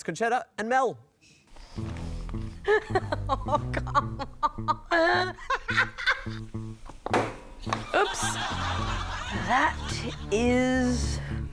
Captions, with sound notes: It's Concetta and Mel. (LAUGHS) Oh! Come on! Oops! That is...